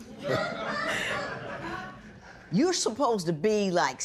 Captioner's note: laughter